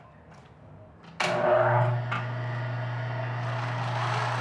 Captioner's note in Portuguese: som ambiente: máquina de costura